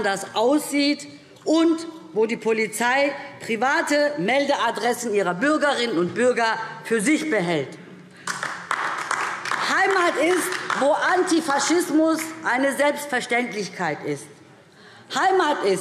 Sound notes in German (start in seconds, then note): 8.2 Beifall DIE LINKE